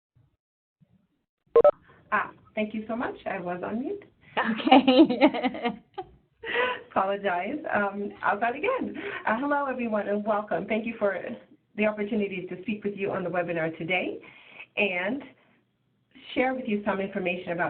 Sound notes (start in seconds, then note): 4.4 laughter